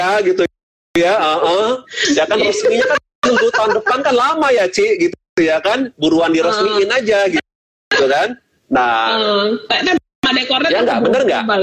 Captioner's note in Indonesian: Tertawa